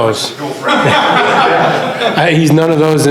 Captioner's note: laughs